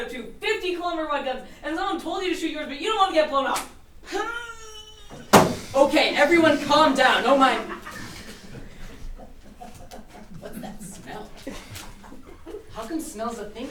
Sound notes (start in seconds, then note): 4.6 squeals; 6.7 laughter